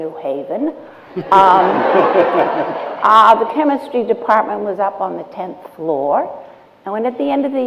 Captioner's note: laughter